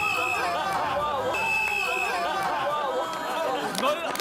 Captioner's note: he blows the whistle